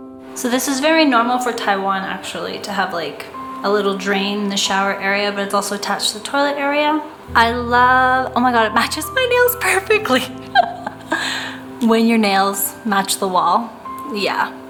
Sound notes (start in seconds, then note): 10.0 giggles